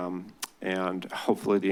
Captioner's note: clicks tongue